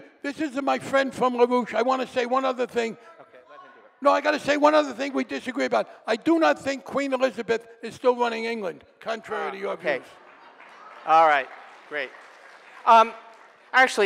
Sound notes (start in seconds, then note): 3.2 audience member shouting; 9.6 audience applauding